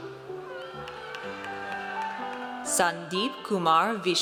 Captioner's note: audience cheers